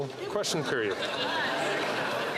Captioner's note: some Applause